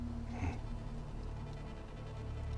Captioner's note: chuckles